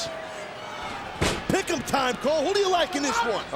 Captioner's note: foot slamming